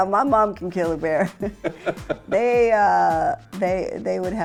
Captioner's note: both chuckle